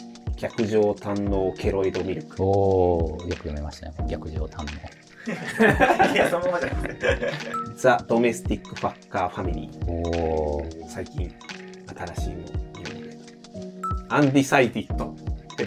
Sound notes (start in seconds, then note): 5.2 laughing